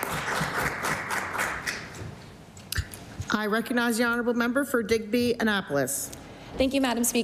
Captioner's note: applause